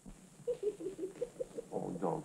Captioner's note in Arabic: يئن